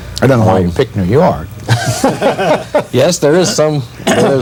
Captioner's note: laughter